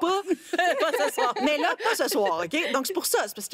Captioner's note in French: rires